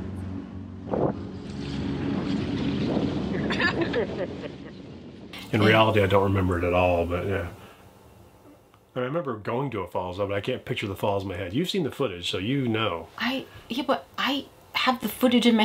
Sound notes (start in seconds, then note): 3.2 wind blowing; 3.3 laughing